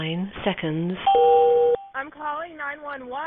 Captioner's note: computer dings